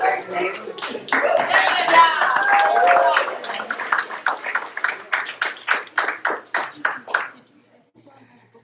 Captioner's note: applause